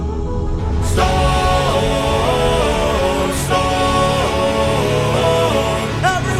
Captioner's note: storm